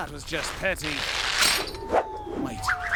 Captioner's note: third trap triggers, whistle descending